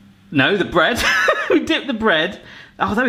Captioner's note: laughs